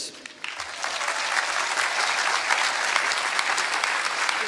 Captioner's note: applause